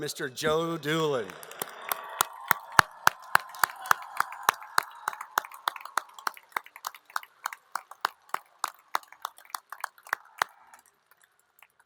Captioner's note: applause